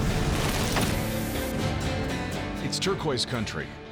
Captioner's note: static